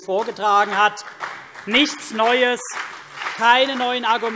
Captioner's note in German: Beifall CDU und BÜNDNIS 90/DIE GRÜNEN